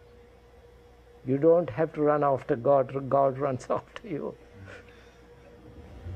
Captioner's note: laughs